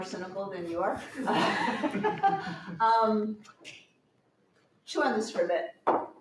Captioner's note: laughter